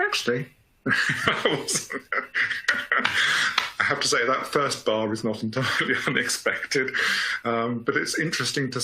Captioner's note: laughing